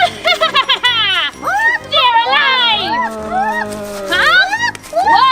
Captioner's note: laughs